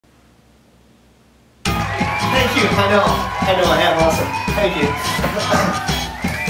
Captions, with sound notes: (crowd cheers) Thank you, I know. I know I am awesome. Thank you. (laughter)